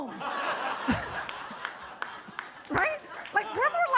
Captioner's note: audience laughs